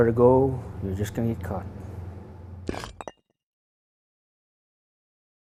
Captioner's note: bricks knocking together